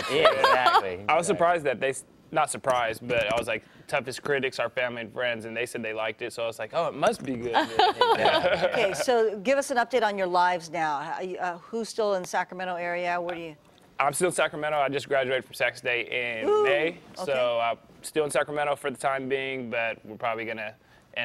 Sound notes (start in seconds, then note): 7.5 laughter